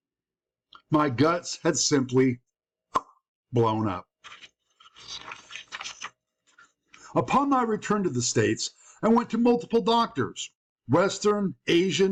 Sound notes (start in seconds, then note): 2.9 pop